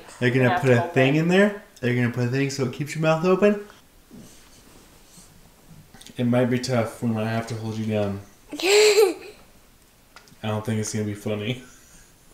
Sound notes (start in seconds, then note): 8.5 laughing